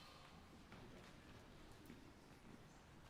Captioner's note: none